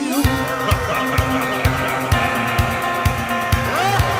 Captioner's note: a man laughs wickedly